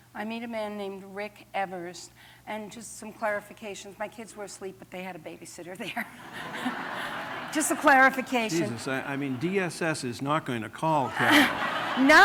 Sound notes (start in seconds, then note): 5.9 laughter